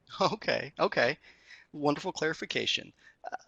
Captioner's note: laughs